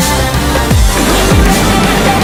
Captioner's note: explosion